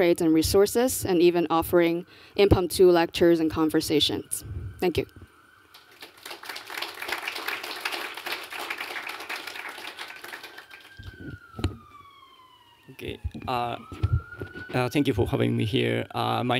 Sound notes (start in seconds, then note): 5.7 applause